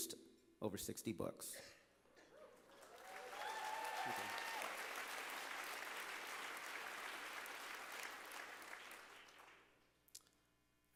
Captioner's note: applause